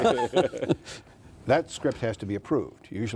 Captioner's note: laughing